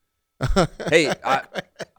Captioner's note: laughing